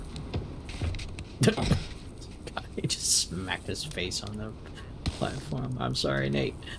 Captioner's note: laughs